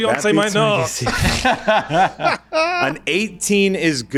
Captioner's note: laughing